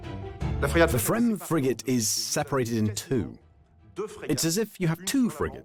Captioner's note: voiceover